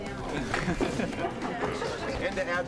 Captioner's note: laughing